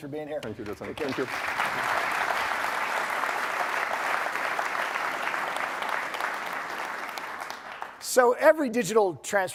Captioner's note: applause